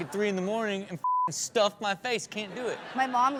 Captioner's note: beep; audience laughs